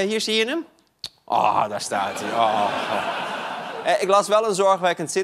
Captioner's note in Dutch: gelach